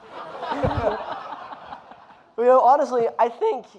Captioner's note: audience laughing